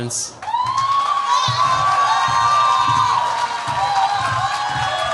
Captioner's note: cheers, applause